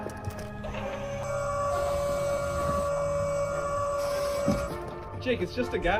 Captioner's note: mechanical whirring sound